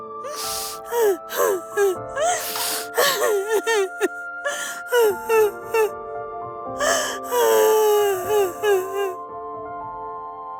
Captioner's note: crying